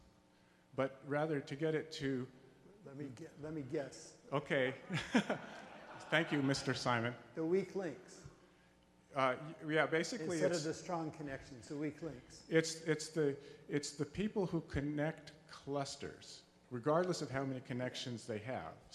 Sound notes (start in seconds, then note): 4.3 voiceover; 4.8 laughs; 9.4 voiceover; 12.5 voiceover